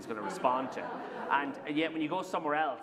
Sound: laughter

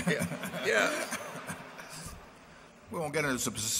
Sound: laughter

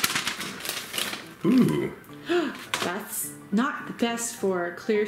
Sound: paper bag shaking; gasps

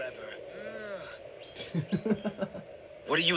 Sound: giggles

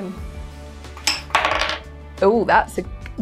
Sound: ice falling on counter

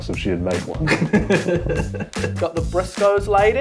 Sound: laughs

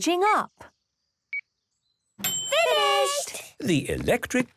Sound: dings

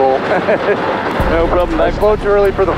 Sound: laughing

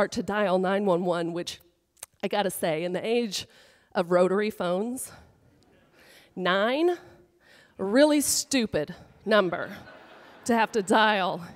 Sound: audience laughter

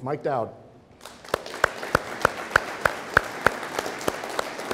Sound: audience applauding

